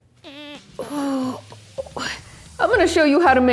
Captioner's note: groaning